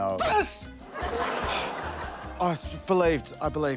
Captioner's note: sighs